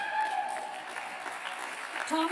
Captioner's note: applause